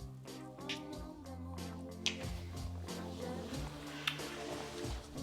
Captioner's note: bright music; lips smacking